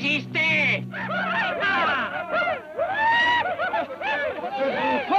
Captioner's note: Delgadito speaking foreign language; Apaches shout